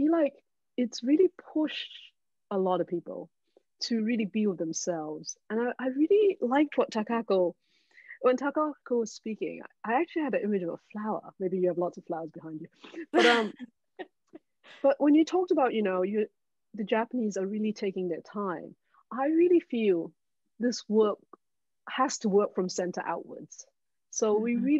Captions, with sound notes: But I feel like it's really pushed a lot of people to really be with themselves. And I really liked what Takako When Takako when speaking, I actually had an image of a flower. Maybe you have lots of flowers behind you. (all laughing) But when you talked about, the Japanese are really taking that time. I really feel this work has to work from center outwards.